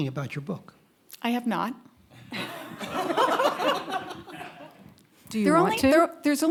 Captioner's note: audience laughing